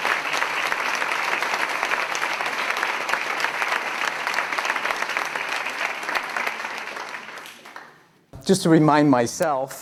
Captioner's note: clapping